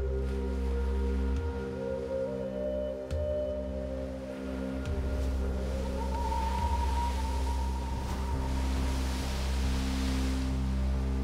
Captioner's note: waves crashing